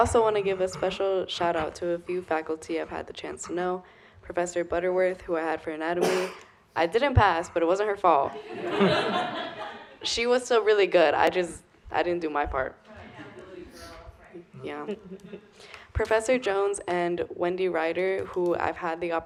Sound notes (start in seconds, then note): 8.3 laughter